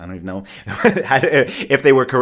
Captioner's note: laughs